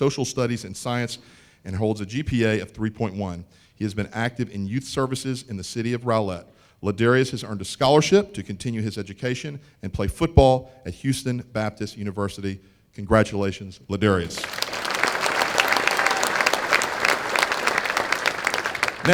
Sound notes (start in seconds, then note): 14.2 applause